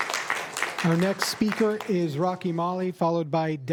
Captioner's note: applause